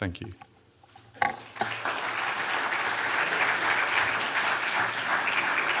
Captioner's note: applause